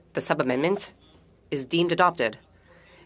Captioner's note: speaking French